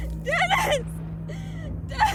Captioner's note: shrieking